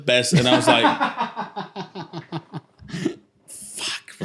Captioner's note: laughter